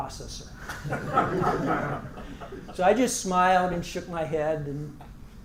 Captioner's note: laugh